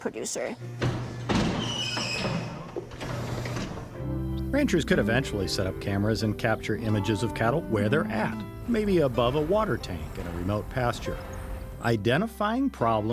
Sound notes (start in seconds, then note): 3.4 gate opening and closing